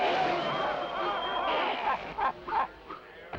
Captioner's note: villains audibly struggling